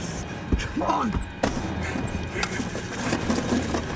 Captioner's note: rummaging